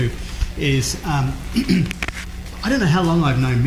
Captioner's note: clears throat